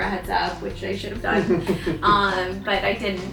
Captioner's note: chuckles